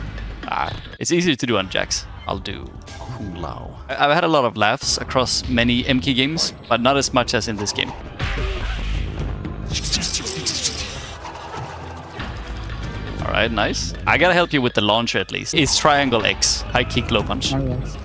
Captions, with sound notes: Ah-- It's easier to do on Jax. I'll do... Kung Lao. I've-- I've had a lot of laughs- -across many MK games- -but not as much as in this game. (Imitates Kung Lao's punch sounds) Alright, nice. I gotta help you with the launcher at least. It's triangle, X. High kick, low punch. Alright.